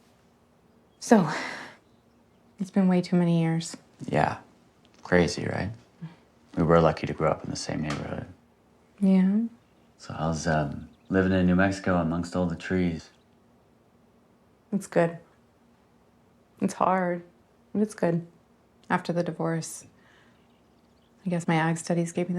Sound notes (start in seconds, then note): 1.4 exhales